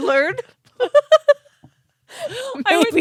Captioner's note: both laughing